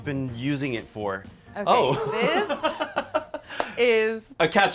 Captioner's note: laughs